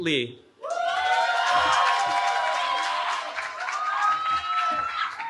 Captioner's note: cheering